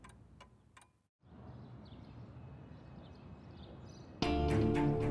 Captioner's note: birds chirping; dramatic music